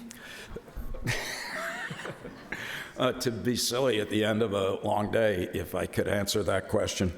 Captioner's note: laughs